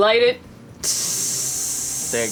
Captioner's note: hissing sound